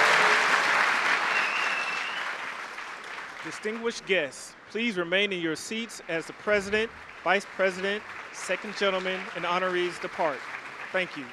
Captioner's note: applause